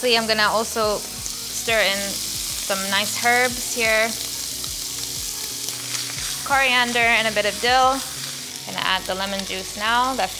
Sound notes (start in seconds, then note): 4.2 pan sizzles